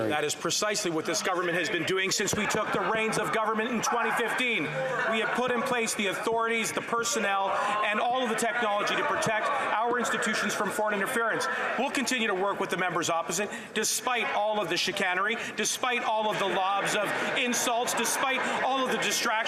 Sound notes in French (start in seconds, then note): 3.5 voix de l'interprète